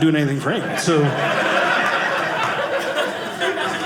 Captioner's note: audience laughing